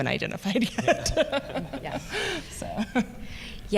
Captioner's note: chuckle